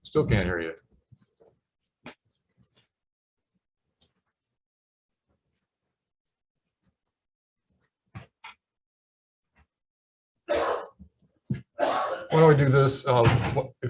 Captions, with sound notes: Still can't hear you. (man coughs) Why don't we do this?